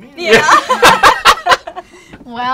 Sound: laughter

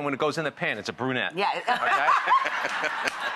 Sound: giggles

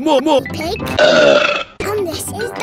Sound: burps

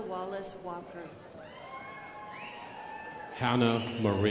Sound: crowd applauding

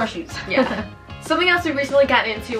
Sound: laughing

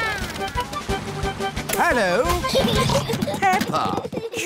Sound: children giggling

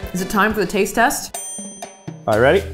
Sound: bell dings

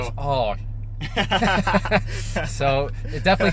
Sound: laughter

